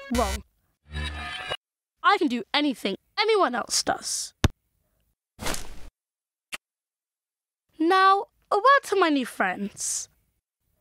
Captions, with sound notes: WRONG! (sound of film rewinding) I can do anything anyone else does. (sound of ball hitting back of net) Now, a word to my new friends.